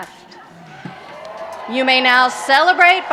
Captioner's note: applause